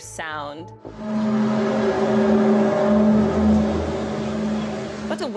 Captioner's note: groaning sound